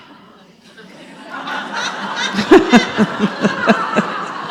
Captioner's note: audience laughs